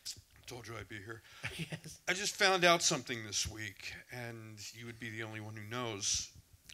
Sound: laughs

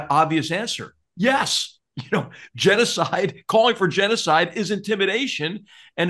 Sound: laugh

